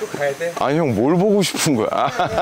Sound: laughing

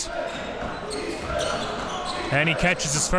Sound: crowd cheering

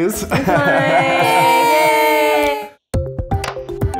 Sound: ladies cheering; upbeat music

